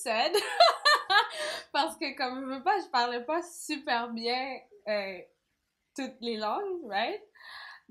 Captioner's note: laugh